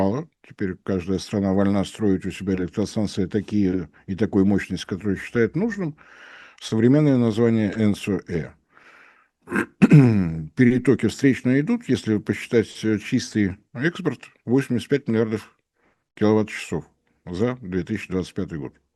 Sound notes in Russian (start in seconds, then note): 9.4 кашель; 9.4 откашливается